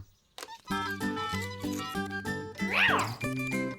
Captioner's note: squeaking